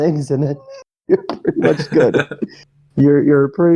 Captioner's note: both laugh